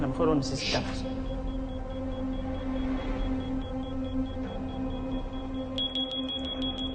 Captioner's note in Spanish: Pitidos